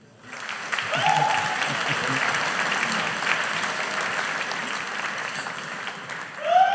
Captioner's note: audience applauding; chuckles